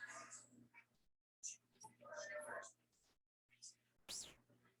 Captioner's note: people chattering indistinctly